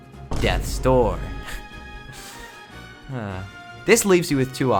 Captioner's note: a laugh and then a sigh